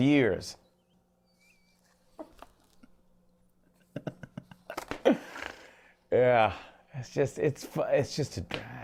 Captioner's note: laughs